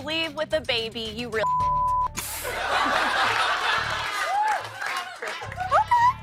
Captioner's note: laughter